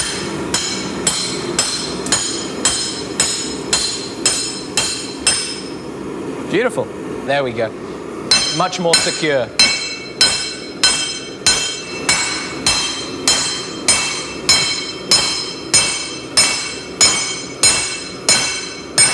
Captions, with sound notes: (metal clanging) - Beautiful, there we go. Much more secure. (metal clanging)